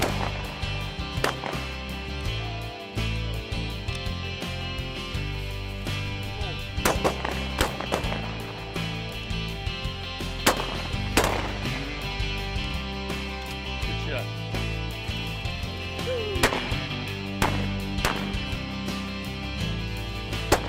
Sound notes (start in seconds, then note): 1.0 gun shots; 3.5 elated music; 6.8 gun shots; 10.4 gun shots; 17.3 gun shots